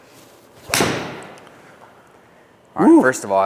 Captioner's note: club smacks ball